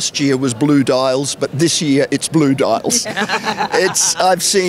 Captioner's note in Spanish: Risas